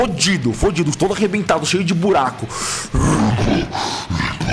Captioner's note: roaring; roars